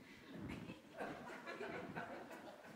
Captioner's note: soft laughter